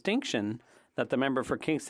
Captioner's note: speaking French